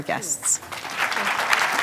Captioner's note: applause